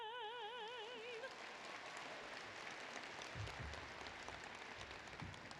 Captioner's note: applause